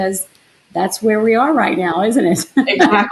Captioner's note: laughs